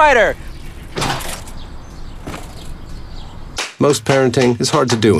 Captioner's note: crunch. Thump!